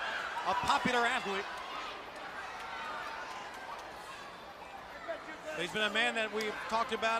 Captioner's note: crowd chatter